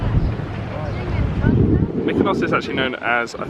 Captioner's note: wind blowing